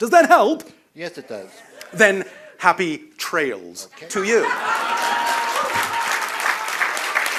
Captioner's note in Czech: Potlesk